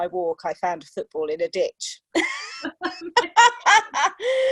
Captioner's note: laughter